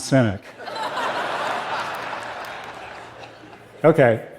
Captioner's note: laughter